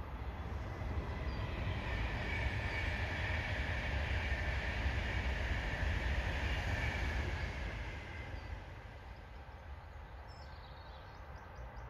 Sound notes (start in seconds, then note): 1.6 sound - an intercity train passes by on the left hand side